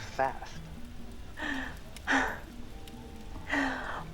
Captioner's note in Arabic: شهقة